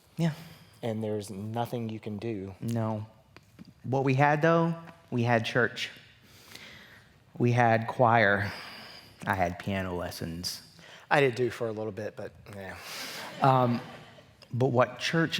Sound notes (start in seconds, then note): 13.0 laughter